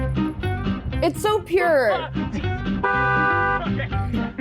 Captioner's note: car honks